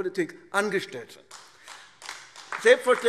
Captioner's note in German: Beifall AfD